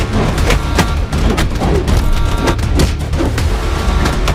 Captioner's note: punching sounds